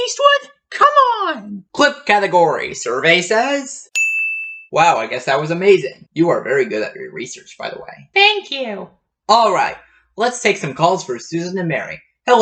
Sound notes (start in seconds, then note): 3.9 ding!